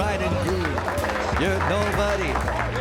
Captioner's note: guests applauding